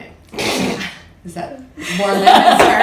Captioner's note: laughter